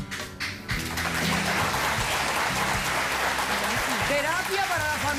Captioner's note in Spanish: Aplausos